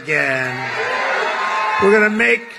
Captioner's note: applause